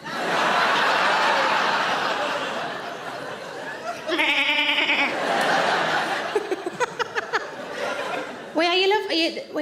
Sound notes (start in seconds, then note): 2.7 audience laughs; 4.0 Sarah bleats; 4.7 audience laughs; 6.2 Sarah laughs